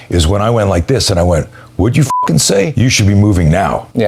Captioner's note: beep